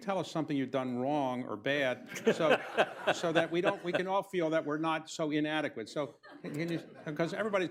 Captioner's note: laughter